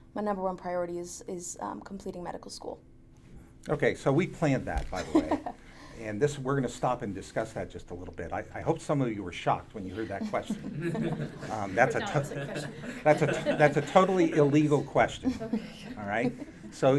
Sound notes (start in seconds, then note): 4.9 laughs; 10.0 audience laughing